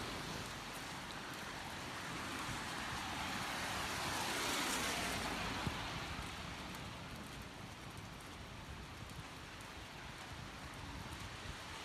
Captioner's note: thunder rumbling, rain and traffic sounds